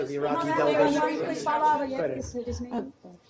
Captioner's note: reporters chatter